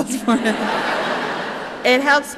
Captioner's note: chuckling